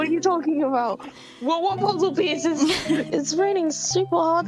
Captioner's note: both laugh